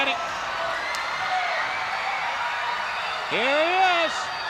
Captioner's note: crowd cheers